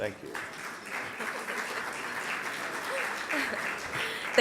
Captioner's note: applause